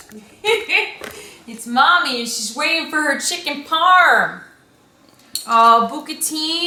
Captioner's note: laughs